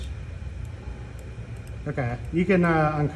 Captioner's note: mouse clicking